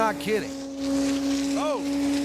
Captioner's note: grinder whirring